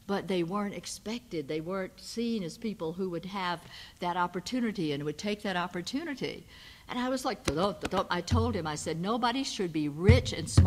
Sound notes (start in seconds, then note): 8.3 imitates heartbeat